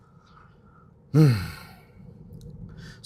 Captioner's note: sigh